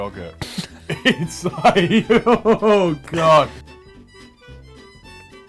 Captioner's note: laughs